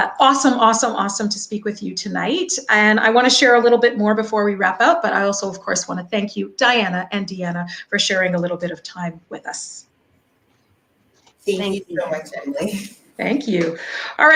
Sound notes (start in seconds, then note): 12.6 faintly speaking